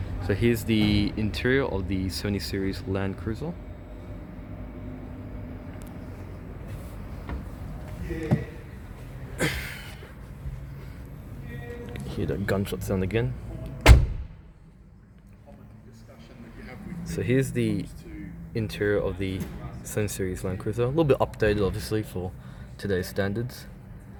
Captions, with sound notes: So here's the interior of the 70 Series LandCruiser. Hear that gunshot sound again. (SLAM!) So here's the interior of the 70 Series LandCruiser. A little bit updated, obviously, for today's standards.